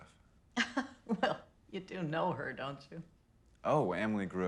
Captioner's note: laughs